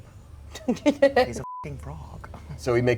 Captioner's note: laughs; beep